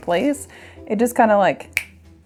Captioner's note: snaps